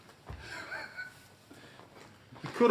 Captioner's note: chuckles